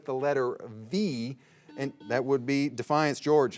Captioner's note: signal beeps